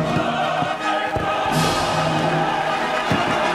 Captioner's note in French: feux d'artifice sonne; applaudissements